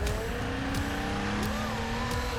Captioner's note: engine revving